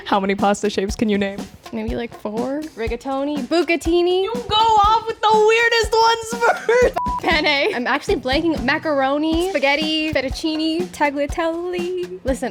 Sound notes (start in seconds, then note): 6.9 beep